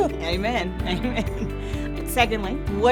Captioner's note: laughing